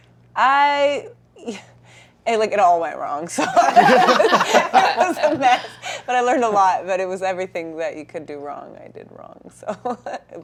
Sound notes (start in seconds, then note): 3.4 laughter; 9.9 laughs